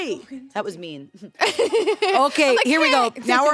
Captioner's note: laughs